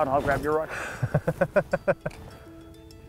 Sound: guys laugh

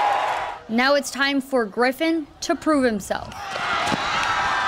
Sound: crowd noise

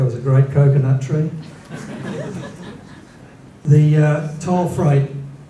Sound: laughter

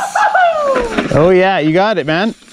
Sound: shouts of excitement

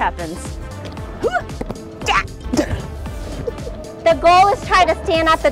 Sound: fun melody; grunts

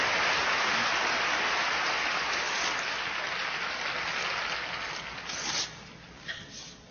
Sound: applause on video

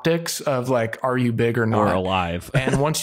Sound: laughs

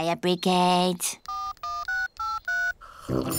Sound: dialing; phone rings

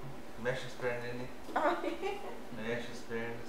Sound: laughs

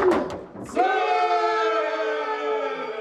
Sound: battle cry

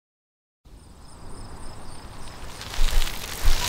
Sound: wind roaring; tires screeching

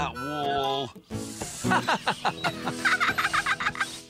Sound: bob and dizzy laugh

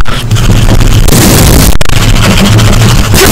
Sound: slams keyboard

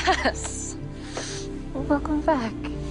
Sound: laughing

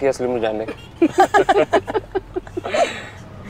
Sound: all laughing

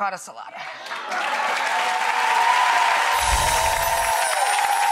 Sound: applause

